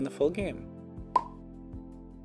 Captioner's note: pop